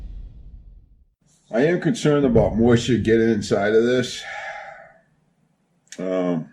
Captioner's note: sigh